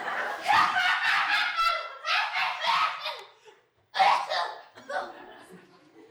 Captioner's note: HIFUMI chortles evilly